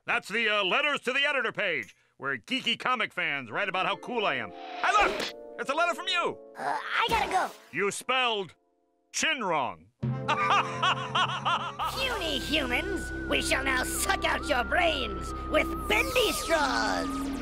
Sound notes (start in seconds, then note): 10.3 laughing